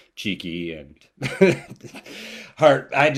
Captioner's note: laughter